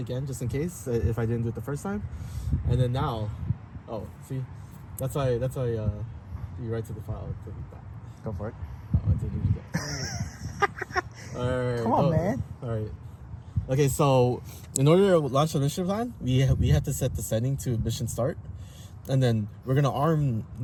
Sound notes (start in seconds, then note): 9.7 laughing